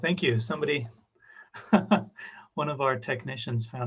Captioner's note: chuckles